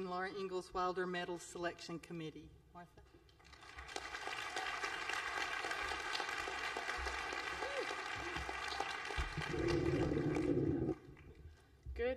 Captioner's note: applause